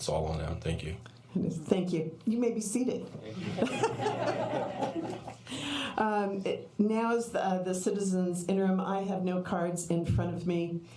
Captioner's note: laughter